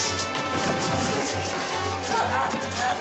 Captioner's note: groaning